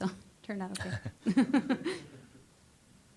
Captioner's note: chuckling